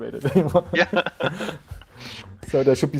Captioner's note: both laughing